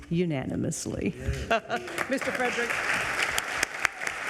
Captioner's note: audience applauds